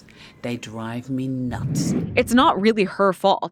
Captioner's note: screen whooshing